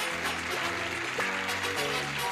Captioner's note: clapping